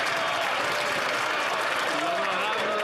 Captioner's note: some Applause